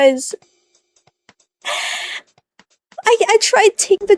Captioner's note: inhale